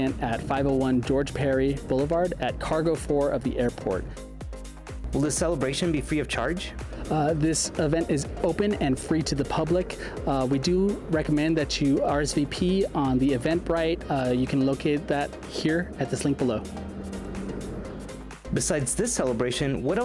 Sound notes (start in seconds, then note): 17.1 air whooshing; 17.1 upbeat music